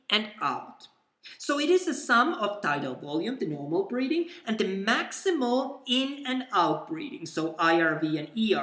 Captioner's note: the normal breathing